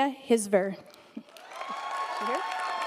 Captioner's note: audience applauding